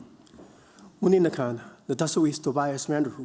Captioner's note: non-english speech